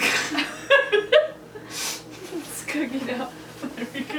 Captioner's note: laughs